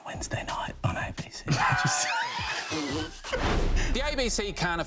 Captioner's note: all laugh